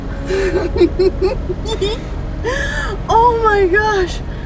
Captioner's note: laughing